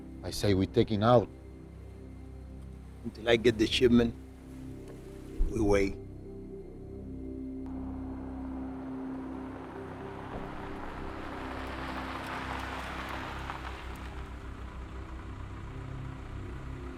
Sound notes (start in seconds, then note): 7.7 car droning; 10.2 soft tense music continues